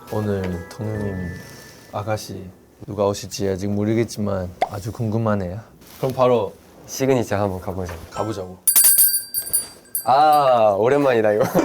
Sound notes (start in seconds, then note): 8.6 ding